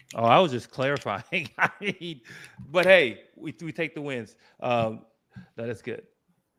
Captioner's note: laughs